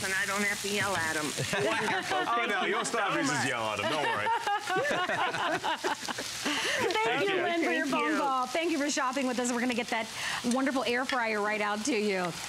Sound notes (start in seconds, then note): 1.3 laughter